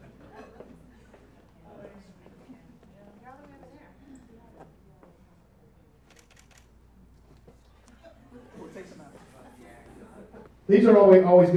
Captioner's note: sounds from picture being taken